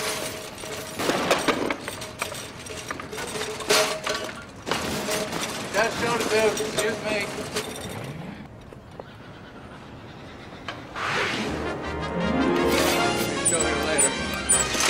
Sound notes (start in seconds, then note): 0.9 stool clatters to the ground